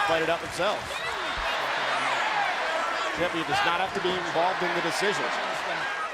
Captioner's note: applause